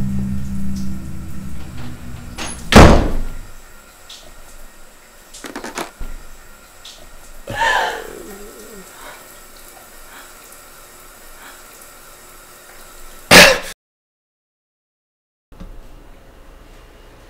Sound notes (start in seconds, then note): 1.4 door closes; 7.5 heavy breathing